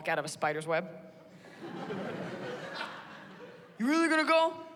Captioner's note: laughter